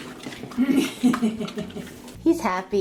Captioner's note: laughter